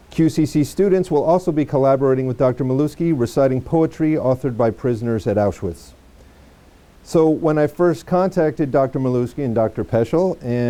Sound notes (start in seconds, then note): none